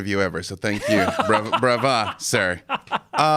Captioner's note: laughing